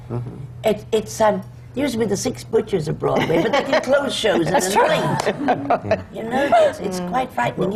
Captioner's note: laughter